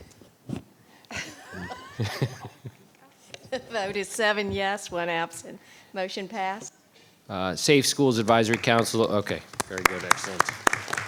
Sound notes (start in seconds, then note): 1.1 chuckling